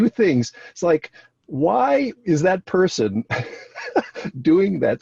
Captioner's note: laughs